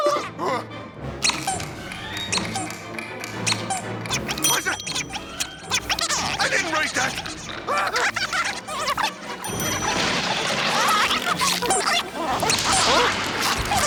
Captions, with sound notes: [squeaking] What's that? [squeaking] I didn't write that. [squeaking] [dinging] [squeaking]